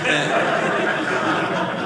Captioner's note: audience laughing